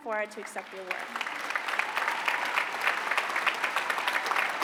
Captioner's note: applause